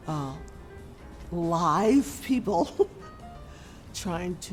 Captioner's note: laughing